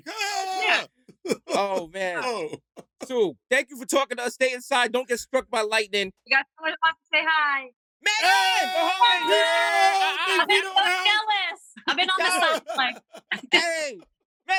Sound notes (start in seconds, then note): 1.2 laughter; 8.0 happy shouting